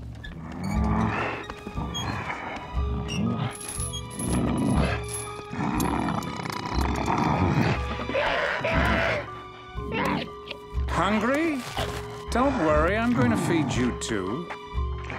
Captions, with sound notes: [grunting] [grunting] [squawking] Hungry? Don't worry, I'm going to feed you too.